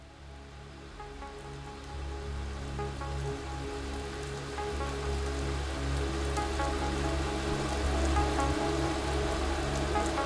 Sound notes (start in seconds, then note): 0.2 light electronic music; 3.2 pouring rain